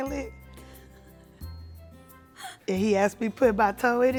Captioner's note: Esther laughs